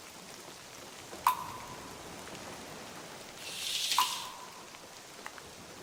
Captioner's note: water splashing